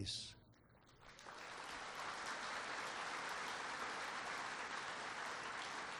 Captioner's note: applause